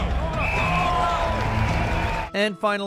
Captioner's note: dramatic music; football players chattering; crowd cheering; whistle shrills